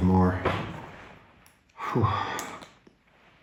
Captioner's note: sighs